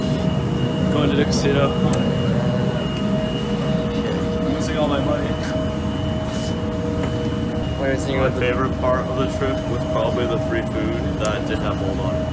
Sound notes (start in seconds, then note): none